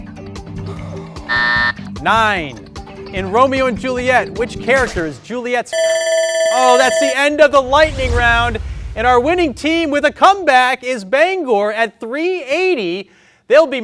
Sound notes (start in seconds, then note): 1.2 buzzer beeps; 5.7 alarm ringing